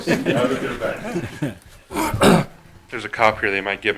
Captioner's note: group laughter